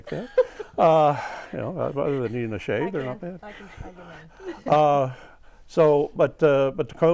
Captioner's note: laughing